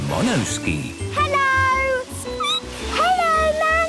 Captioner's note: squeaking